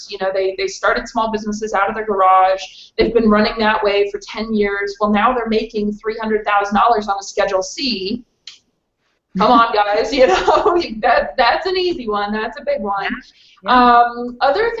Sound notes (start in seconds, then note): 8.3 skin smacks; 10.0 laughs